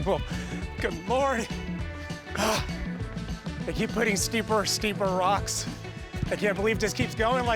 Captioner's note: panting